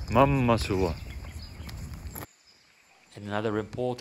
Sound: birds chirping

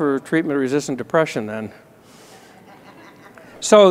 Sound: laughter

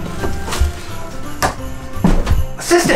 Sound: door thuds

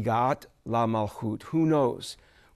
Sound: speaking in Hebrew

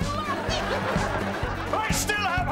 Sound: laughing

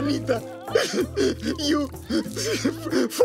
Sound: sobbing

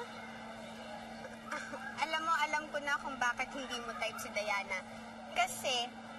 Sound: chuckles

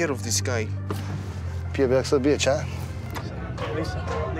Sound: speaking russian

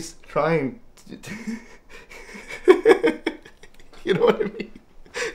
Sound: laughing

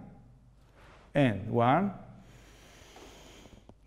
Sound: controlled exhalation; detant controlled inhalation

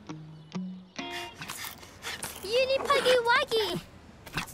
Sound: panting

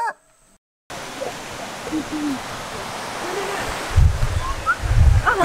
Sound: rooster crowing; water flowing

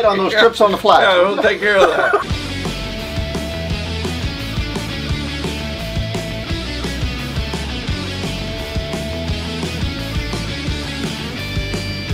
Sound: laughing

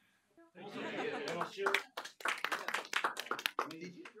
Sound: applause

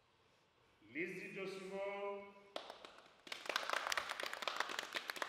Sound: applause

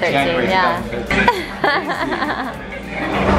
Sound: laughs

